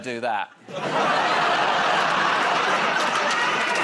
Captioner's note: laughter